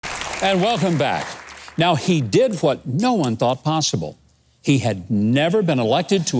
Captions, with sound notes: (clapping) - And welcome back. Now he did what no one thought possible. He had never been elected